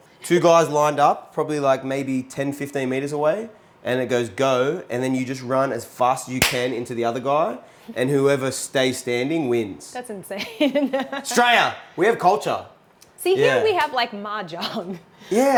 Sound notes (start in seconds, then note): 10.4 chuckles